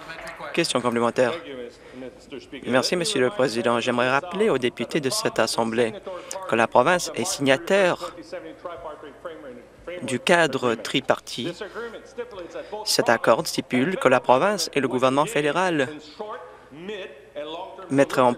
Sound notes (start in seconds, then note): 1.6 some applause